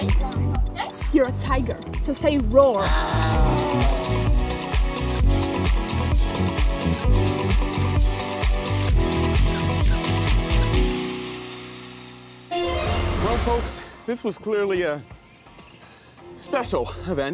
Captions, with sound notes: You're a tiger. So say "Roar". [yowling] Well, folks, this was clearly a... special event,